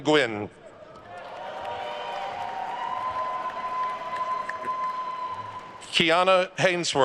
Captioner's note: attendees cheering and applauding